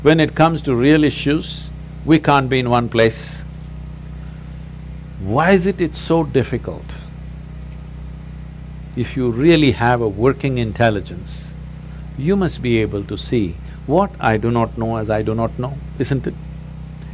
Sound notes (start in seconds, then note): none